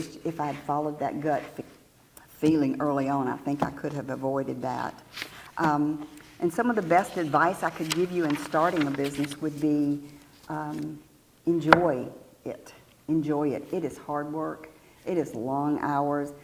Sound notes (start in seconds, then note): none